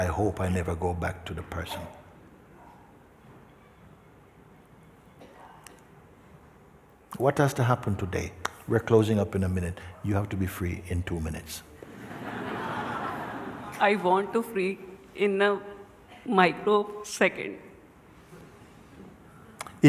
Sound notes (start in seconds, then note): 11.8 laughter